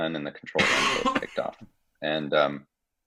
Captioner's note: cough